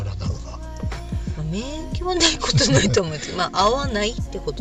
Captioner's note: laughs